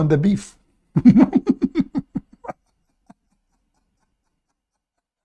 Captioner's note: Ketawa